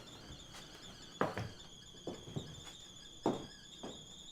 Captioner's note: footsteps